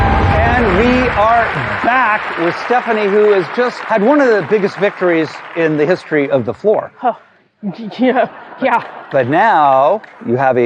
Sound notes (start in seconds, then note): 0.0 dramatic music; 6.9 sharp exhale